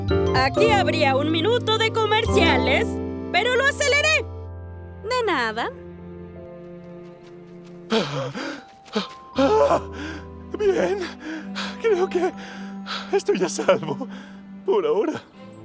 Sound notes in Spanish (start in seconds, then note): 7.8 Ramsey jadeando